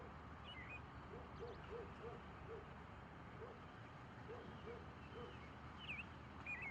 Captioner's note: dog barking